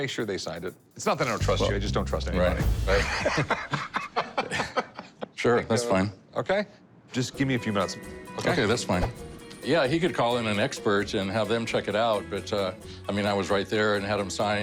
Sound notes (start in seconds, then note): 1.8 laughs